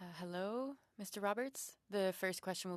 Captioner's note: speaking French